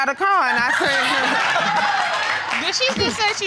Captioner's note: audience laughing